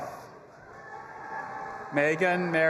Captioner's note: audience applauding and cheering